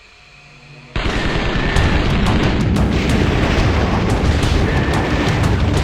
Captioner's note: gunfire